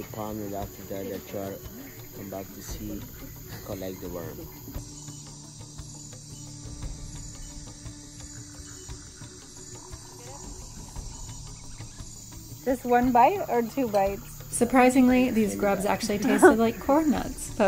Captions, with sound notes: and after that come back to see, collect the worms. (lively music) (insects trilling) - Just one bite or two bites? Surprisingly, these grubs actually tasted like corn nuts,